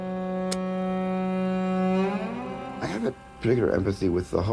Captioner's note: film reel spinning